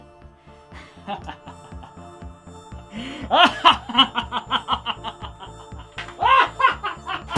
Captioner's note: maniacal laughter